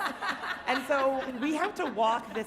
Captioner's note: audience and panelist laughing